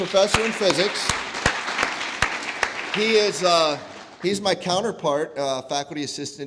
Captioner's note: applause